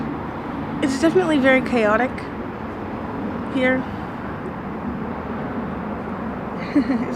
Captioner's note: giggles